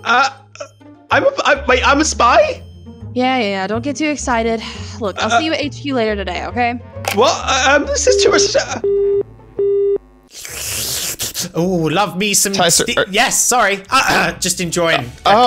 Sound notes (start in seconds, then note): 9.6 phone dial tone; 10.3 slurping noises